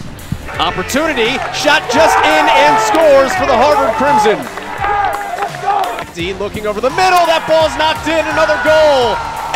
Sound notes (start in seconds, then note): 4.3 cheering, applause